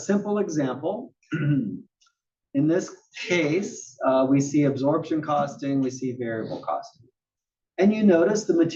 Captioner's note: cough